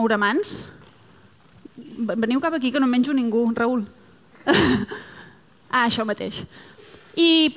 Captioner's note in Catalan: riures